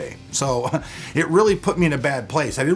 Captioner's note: chuckles